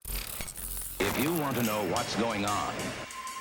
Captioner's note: electricity sizzling